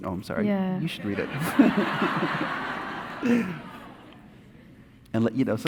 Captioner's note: audience laughing